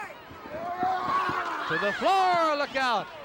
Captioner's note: shouts